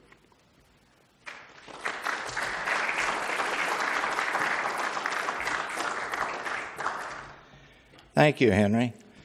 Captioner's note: applause